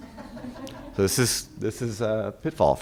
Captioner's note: audience laughing